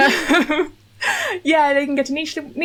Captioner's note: laughing